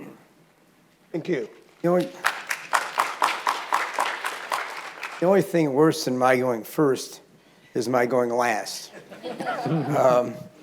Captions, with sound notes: - Thank you. (audience applauding) - The only thing worse than my going first is my going last.